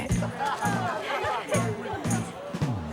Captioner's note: laughter